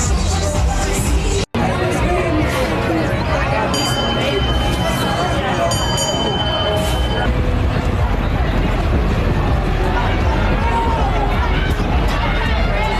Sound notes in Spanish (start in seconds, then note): 1.6 voces